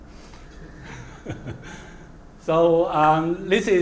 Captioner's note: laugh